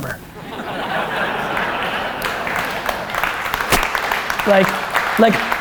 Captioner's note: laughter and applause